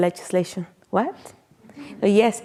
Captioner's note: audience chuckling